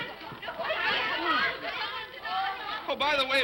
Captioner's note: children clamoring; laughs